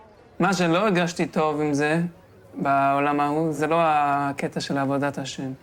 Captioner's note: young man speaking in foreign language